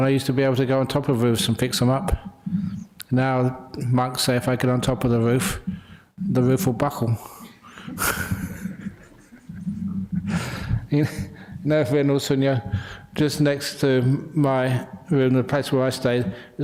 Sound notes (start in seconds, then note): 7.9 laughter